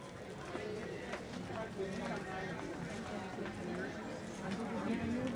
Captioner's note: audience chattering